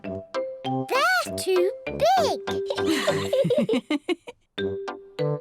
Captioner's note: laughs